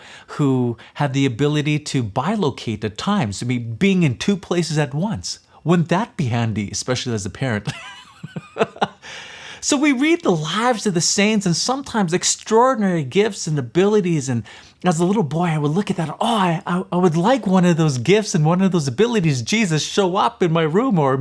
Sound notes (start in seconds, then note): 7.7 laughs